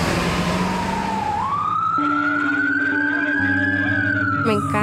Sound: siren wailing

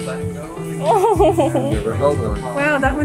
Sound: exclaims

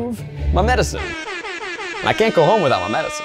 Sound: air horn blares

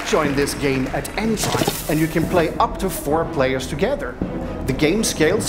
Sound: applause

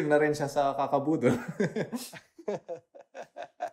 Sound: laughs

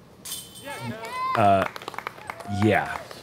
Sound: applause

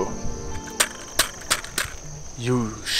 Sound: tripod thumping

